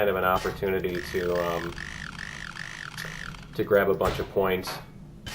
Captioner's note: pinging